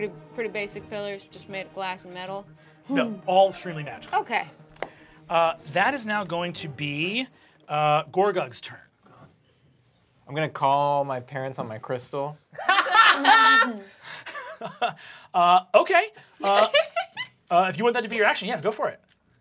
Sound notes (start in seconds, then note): 12.6 laughing